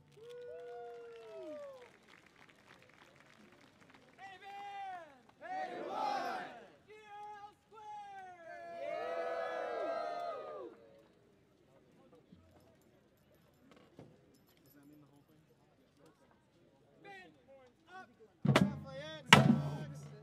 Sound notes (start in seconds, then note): 0.0 audience applauding; 9.0 band members cheering